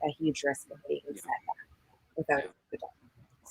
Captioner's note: connectivity hitch drowns other sounds